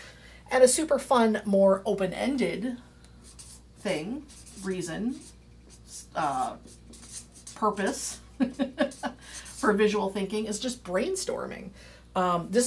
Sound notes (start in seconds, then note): 8.4 laughing